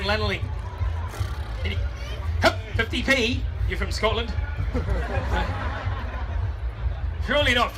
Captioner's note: crowd laughs